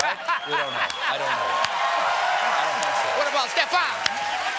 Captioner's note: laughter